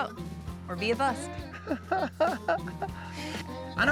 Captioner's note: chuckles